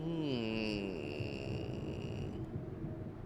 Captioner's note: groaning